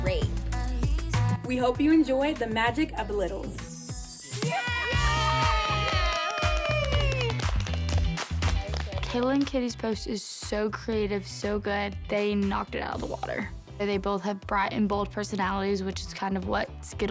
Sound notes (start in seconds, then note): 4.4 cheering